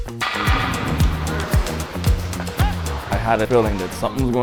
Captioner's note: sticks clattering